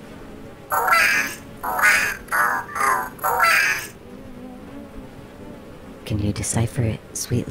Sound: A seagull cries

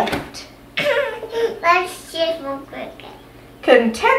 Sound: laughs

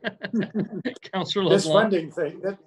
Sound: laughs

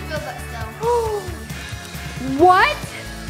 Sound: gasps

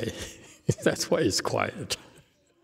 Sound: laughs

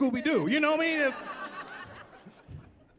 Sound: laughing

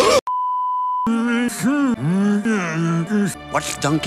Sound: Eeyore mumbling

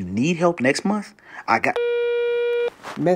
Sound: phone tone

